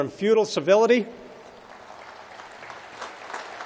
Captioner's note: applause